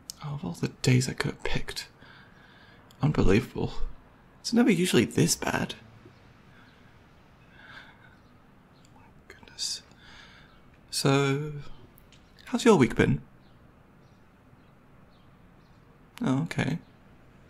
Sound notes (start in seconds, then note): 7.1 breathing; 8.5 quietly